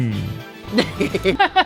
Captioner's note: laughter